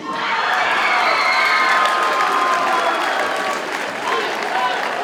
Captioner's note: audience cheers and applauds